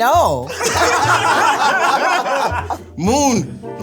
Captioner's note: all laugh